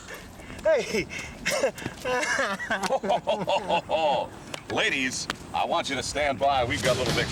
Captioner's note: laugh